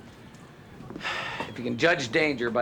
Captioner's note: sighs